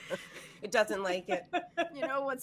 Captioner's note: laughing